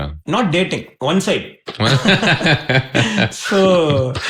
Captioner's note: laughing